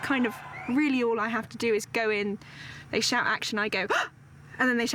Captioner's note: gasps